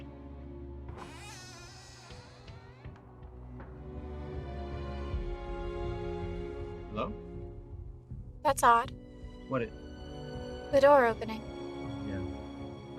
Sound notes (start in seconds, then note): 1.0 door creaks open